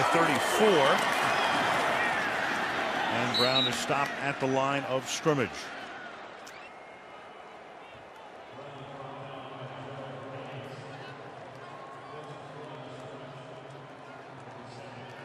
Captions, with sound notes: The ball's at the 34. And Brown is stopped at the line of scrimmage. [pa announcement]